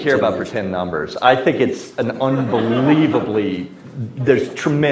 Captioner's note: audience laughs